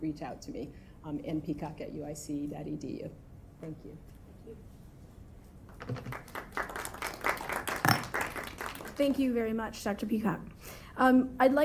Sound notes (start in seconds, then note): 5.7 applause